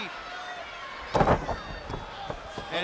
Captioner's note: crowd chatter